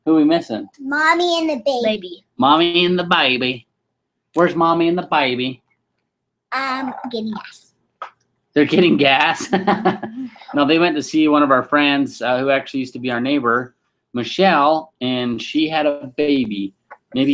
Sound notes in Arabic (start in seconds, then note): 8.6 يضحك